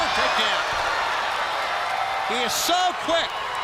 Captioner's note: crowd cheering